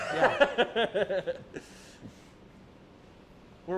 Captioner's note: laughs